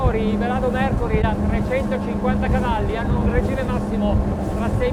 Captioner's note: speaking foreign language